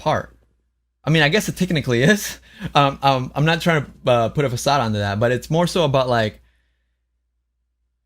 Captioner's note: laughs